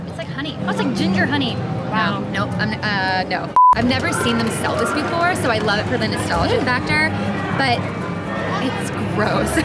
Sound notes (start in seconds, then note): 3.5 beep